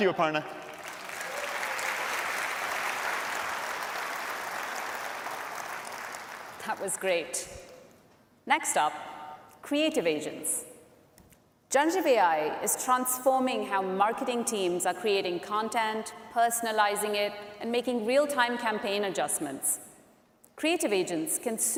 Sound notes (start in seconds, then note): 4.8 applause